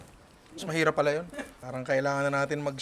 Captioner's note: chuckles